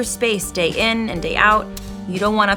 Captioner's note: clicking